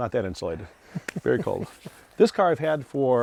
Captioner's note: laughing